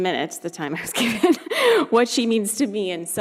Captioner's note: laughing